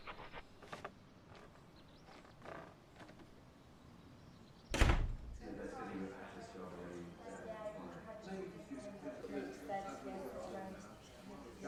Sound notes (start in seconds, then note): 4.7 door closes; 6.5 distant chattering